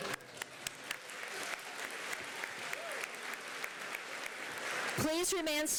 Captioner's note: applause